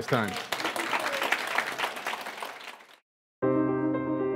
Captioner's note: applause